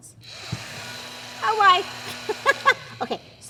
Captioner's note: laughter